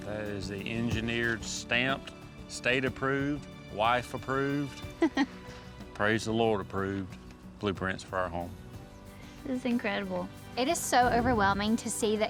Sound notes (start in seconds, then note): 4.9 chuckling